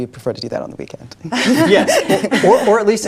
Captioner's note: laughing